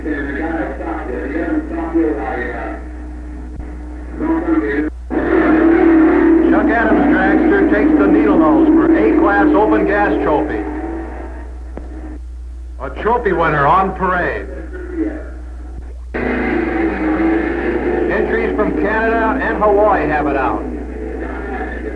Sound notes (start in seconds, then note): 0.2 announcer echoing; 5.2 tires squealing